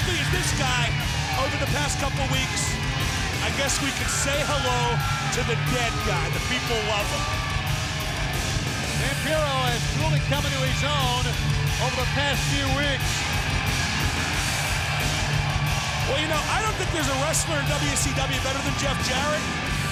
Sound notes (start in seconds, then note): 7.9 crowd cheering; 14.3 crowd cheering